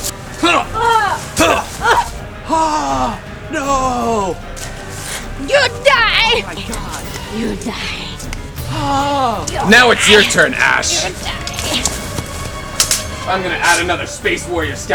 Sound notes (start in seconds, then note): 0.3 fighting noises and groans; 3.5 exclamation noise; 10.6 Background "you die noises" from Russian Space Pirate